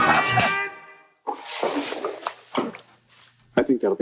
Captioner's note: fingers clicking